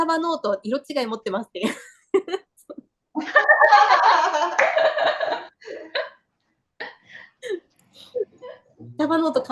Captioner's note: laughs